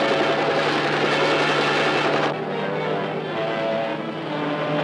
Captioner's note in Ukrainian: гурчання гелікоптера